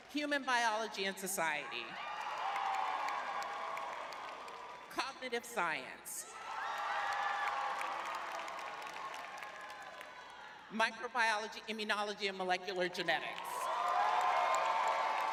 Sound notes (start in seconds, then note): 3.8 cheering; 3.8 clapping; 6.2 cheering; 6.3 clapping